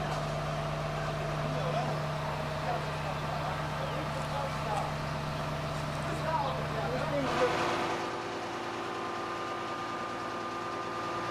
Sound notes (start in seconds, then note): 7.7 persistent whirring noise